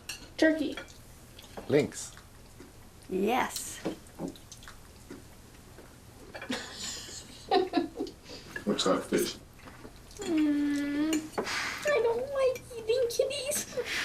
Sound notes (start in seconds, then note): 6.4 chuckling; 10.1 whines